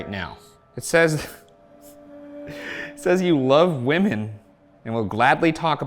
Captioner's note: chuckles